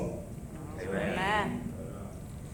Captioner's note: crowd